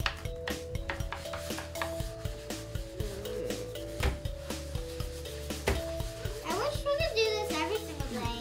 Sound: tapping

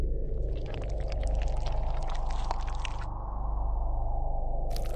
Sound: more gooey slithering

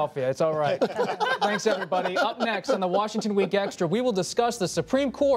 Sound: laughter

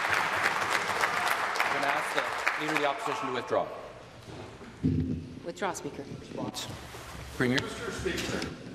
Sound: applause

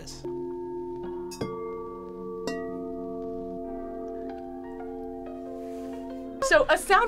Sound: bowls chiming

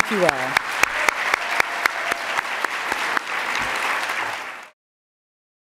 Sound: attendees applauding

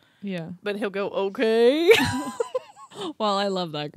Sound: laughs

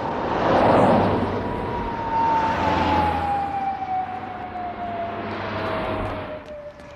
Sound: traffic whirring

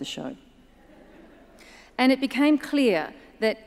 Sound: audience chuckles

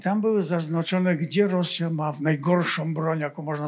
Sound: foreign language

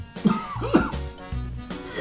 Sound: coughs

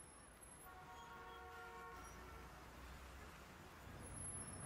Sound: traffic noise

